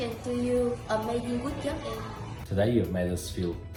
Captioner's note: speaking in foreign language